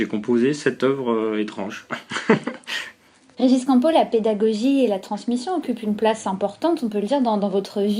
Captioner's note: laughs